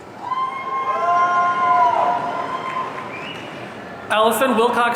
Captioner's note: audience cheering